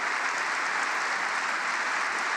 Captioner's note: applause